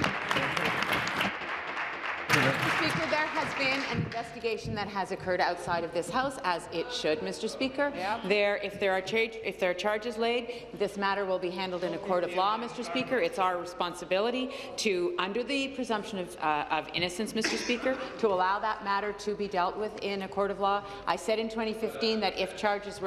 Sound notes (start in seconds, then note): 4.5 applause